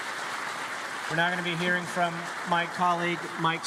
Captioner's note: applause